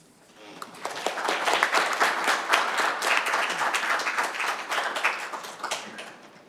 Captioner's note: applause